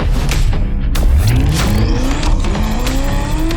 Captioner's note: engine roaring